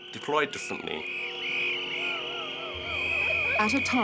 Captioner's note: protest whistles